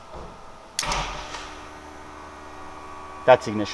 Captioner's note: machine whirring